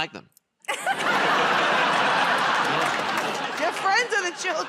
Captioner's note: laughter